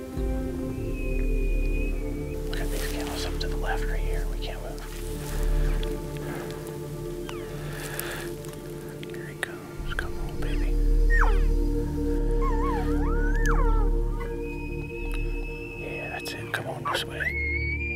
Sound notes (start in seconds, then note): 11.6 elk bugle